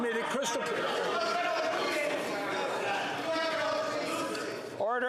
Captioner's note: yelling